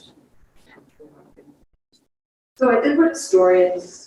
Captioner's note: speaks distorted